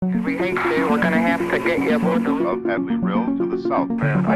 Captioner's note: nasa chatter